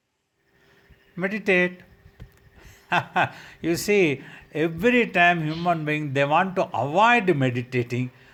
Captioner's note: laughs